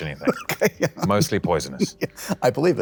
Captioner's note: laughs